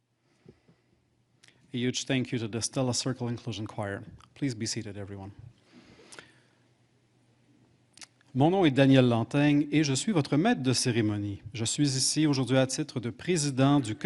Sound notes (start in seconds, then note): 10.2 speaking French